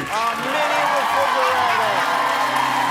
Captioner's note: applause